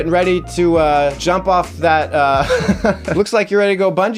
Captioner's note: laughs